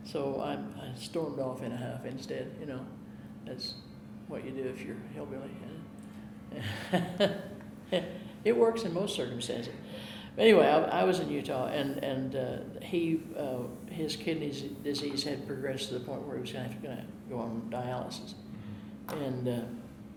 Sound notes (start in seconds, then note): 6.5 chuckling